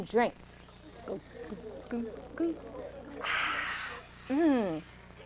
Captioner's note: swallowing sounds